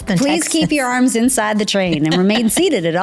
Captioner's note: laughs